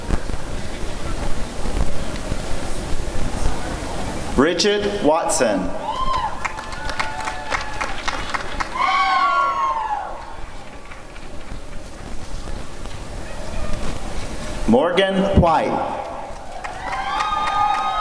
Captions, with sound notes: Bridget Watson [applause and cheering] Morgan White